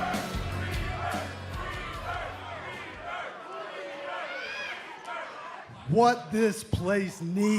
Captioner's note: fans chanting